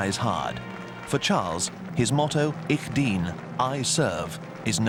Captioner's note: speaking in foreign language